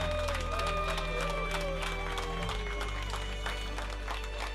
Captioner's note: cheers and applause